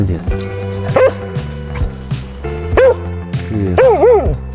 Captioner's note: barking